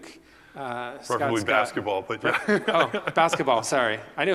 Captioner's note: laugh